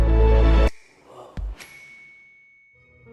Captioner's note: character gasps; starburst dings